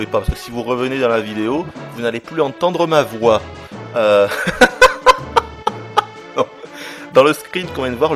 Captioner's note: laughs